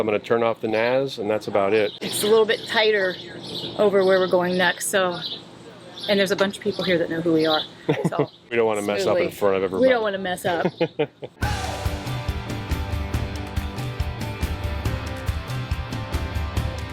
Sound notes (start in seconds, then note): 10.5 laughing; 11.4 upbeat music